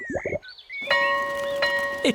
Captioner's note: tummy rumbles; school bell rings